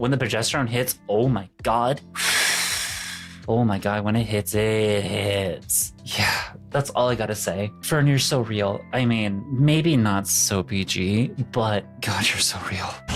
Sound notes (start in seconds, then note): 2.1 exhaling